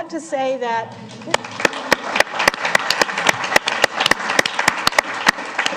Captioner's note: applause